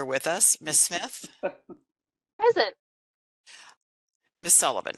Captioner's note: laughing